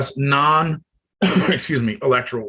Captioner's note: coughs